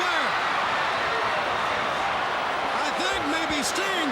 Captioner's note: crowd cheering